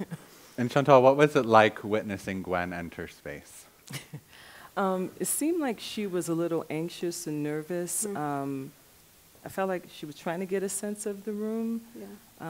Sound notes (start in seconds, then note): 0.0 chuckles; 3.8 chuckles